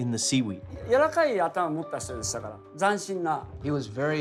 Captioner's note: speaking Japanese